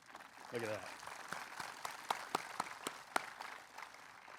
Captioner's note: applause